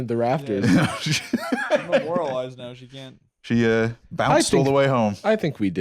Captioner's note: laughs